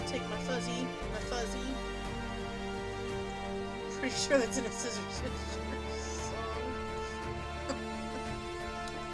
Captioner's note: laughing